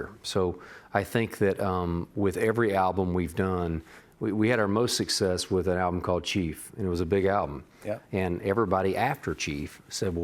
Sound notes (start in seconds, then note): none